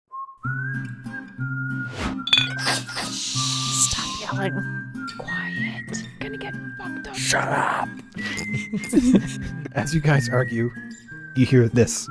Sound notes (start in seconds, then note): 0.0 whimsical music; 1.9 swords slashes; 8.2 laughter